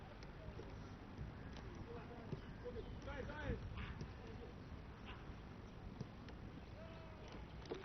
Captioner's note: Arabic